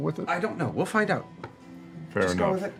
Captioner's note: none